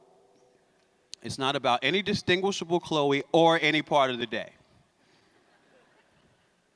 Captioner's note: laughter